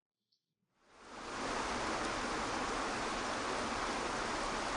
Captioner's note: water crashing